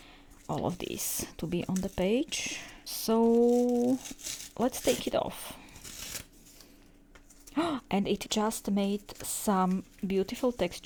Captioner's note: book pages